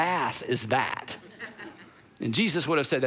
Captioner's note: congregation laughing